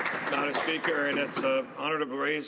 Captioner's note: speaking French